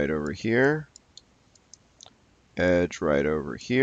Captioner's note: mouse clicking